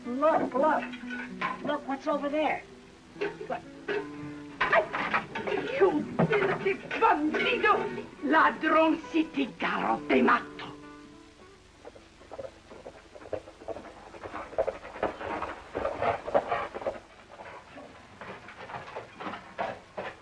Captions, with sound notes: Look, look, look what's over there. You! [SPEAKING SPANISH] [HOOVES CLOPPING]